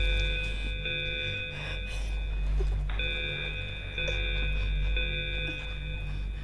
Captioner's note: emergency alarm, students whispering